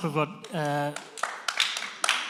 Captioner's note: applause